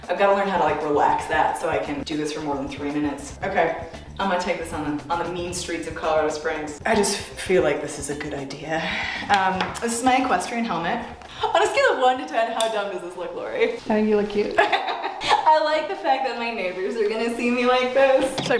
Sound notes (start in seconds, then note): 14.6 laughter